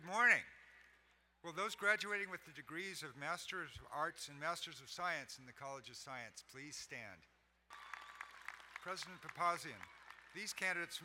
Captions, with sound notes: - Good morning. Will those graduating with the degrees of Masters of Arts and Masters of Science in the College of Science please stand. (crowd cheering and applauding) President Papazian, these candidates